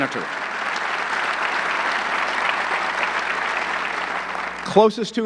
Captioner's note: audience clapping